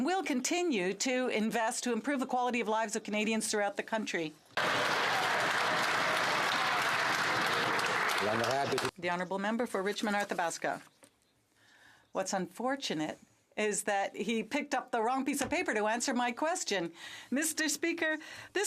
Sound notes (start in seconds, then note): 8.1 some Applause